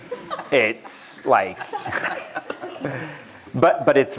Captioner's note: laughter